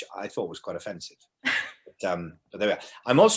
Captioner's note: laughs